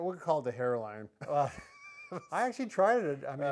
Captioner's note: both chuckle